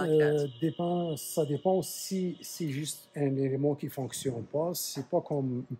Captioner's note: speaks French